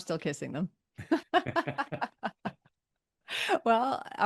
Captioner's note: both laughing